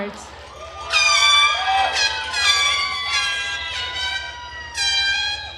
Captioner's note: attendees cheering and applauding